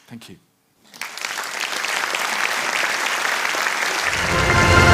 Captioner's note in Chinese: Applause; 掌聲